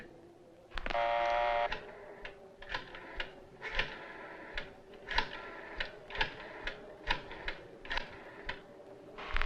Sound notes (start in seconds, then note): 2.0 phone dial clicking